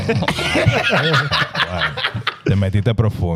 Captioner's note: laughing; speaking In Foreign Language